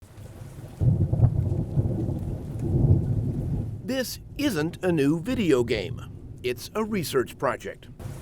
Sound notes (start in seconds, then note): 0.1 thunder rumbles; 1.4 heavy rain hissing